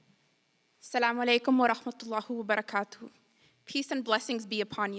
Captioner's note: speaking in foreign language